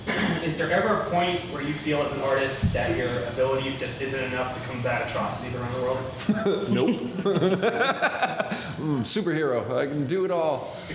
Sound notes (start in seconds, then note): 6.2 laughter; 8.0 laughing